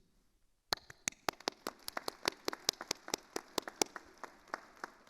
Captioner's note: attendees applauding